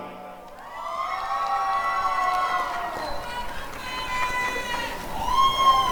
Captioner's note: applause and cheering